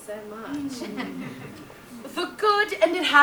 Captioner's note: audience laughs